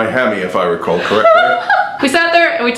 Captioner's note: laughs